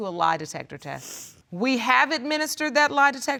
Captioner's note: sniffles